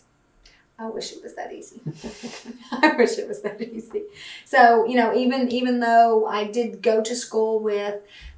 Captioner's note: laughter